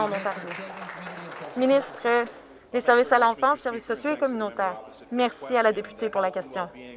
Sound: some Applause

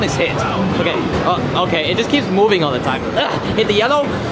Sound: grunting

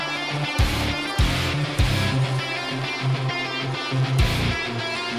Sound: fast-paced rock music; machinery engine revs

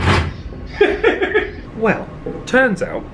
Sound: loud banging; laughs

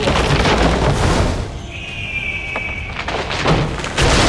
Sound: wood crumbling; eagle screech

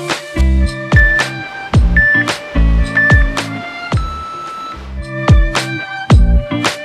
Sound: waves whooshing; timer beeping

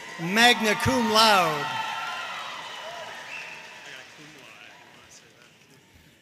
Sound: audience cheering and applauding

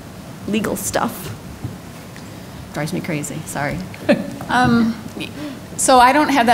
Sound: laughs

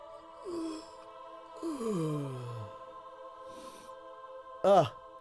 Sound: yawning

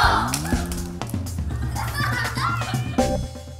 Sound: cheering and laughing

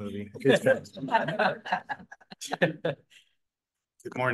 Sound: laughter

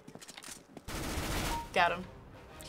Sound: firing

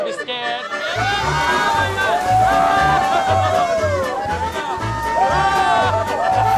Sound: playful music; riders scream

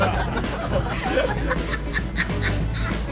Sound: laughter

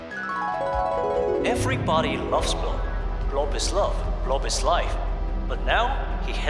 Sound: echoing

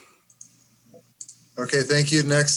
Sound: mouse clicks

